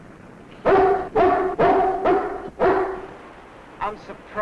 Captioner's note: dog barking